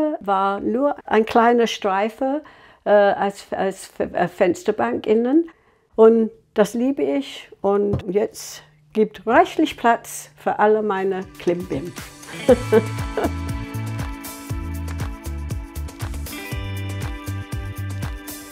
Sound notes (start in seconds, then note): 12.2 she laughs; 13.8 lively music